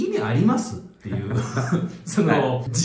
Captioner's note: laughs